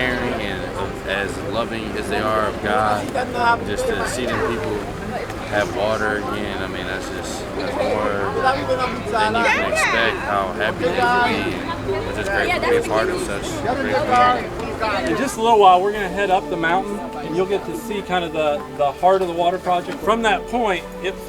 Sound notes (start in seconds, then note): 8.3 chattering getting louder